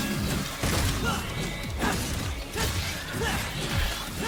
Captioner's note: Dante grunting